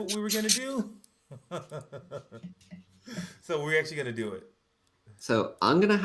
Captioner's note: laughs